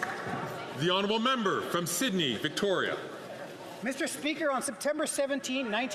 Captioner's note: some Applause